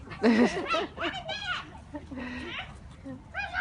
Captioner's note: laughing; adults laughing